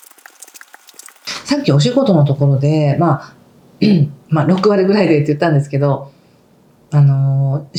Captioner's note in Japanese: 咳払い